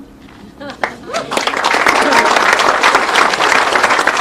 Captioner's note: people applauding